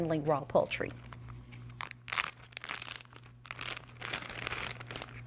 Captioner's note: bag rustling